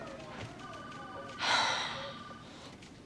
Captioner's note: sighs